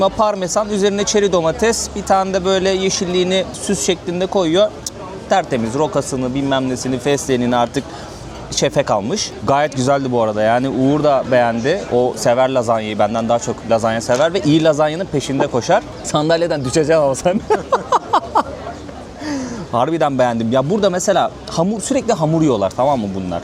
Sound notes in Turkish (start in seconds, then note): 17.2 kahkaha